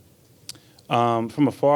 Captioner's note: tongue clicks